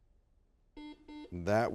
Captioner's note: buzzer beeps